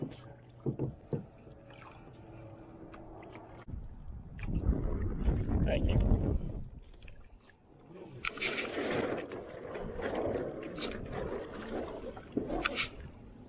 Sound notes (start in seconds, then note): 0.0 water lightly splashing down the sides of the boat; 5.2 sounds of line adjusting the mainsheet sail